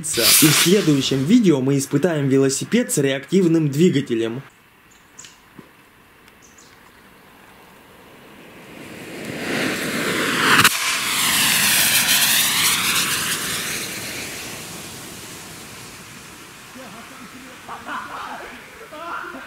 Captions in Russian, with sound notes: И в следующим видео мы испытаем велосипед с реактивным двигателем! *нарастающее шипение* *убывающее шипение*